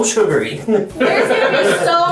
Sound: laughs

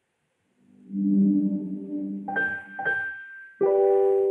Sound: google home chime

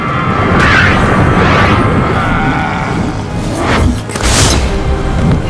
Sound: magical whooshing

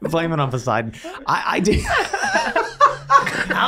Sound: all laughing

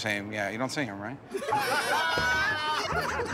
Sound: laughter

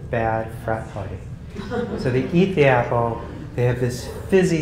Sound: laugh

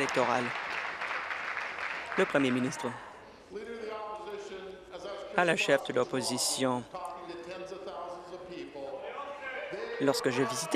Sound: applause

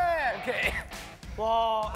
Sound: cough

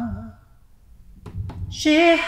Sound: faster heartbeat begins

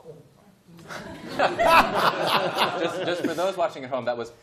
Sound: laughter

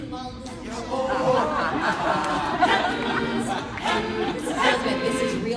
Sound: audience laughs

